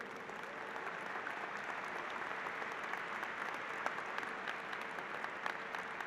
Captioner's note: applause